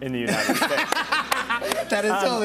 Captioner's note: laughter